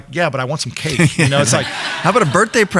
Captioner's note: laughs